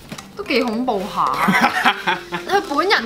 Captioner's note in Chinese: 爆笑